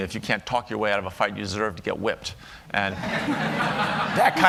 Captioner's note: laughter